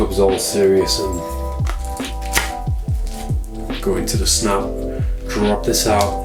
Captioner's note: snaps